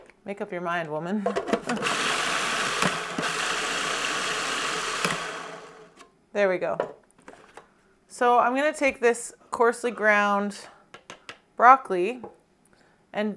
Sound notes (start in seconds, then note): 1.6 processor grinding